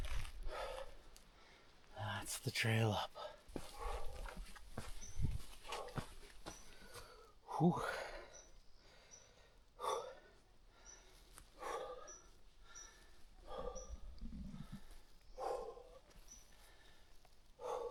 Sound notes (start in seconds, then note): 5.3 footsteps; 7.0 exhales